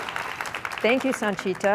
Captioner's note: applause, cheers